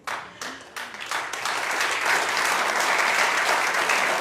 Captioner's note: audience clapping